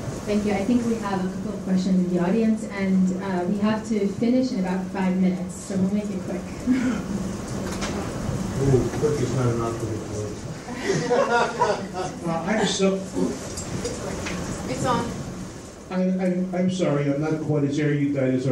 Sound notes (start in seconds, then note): 6.6 laughs; 10.6 all laugh